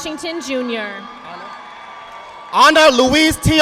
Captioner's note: audience applauding